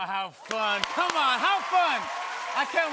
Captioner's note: cheers and applause